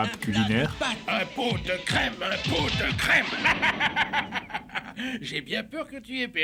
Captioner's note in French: rire